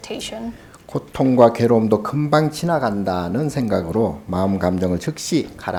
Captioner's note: speaking Korean